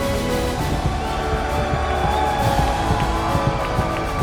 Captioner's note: crowd cheering